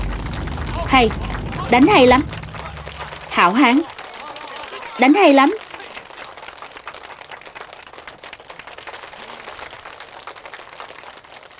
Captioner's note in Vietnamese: Vỗ tay